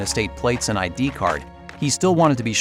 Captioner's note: footsteps